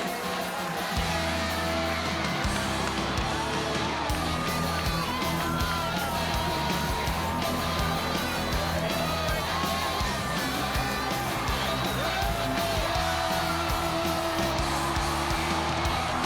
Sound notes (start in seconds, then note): 7.9 crowd cheering; 7.9 upbeat rock music continues